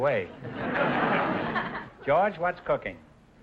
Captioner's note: audience laughter